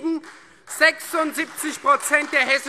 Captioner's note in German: Beifall Freie Demokraten und vereinzelt AfD